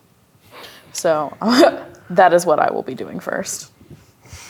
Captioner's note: chuckles